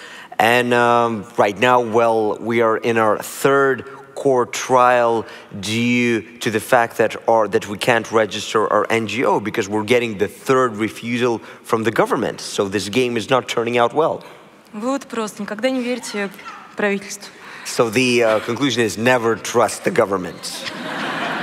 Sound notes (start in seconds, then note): 15.5 foreign Language; 19.7 laughter